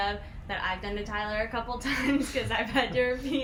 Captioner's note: laughs